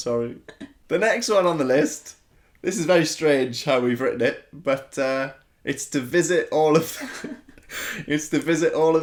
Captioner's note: laughter